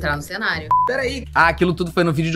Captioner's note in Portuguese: som de bipe